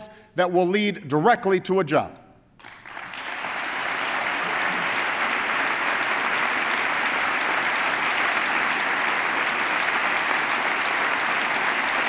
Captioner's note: applause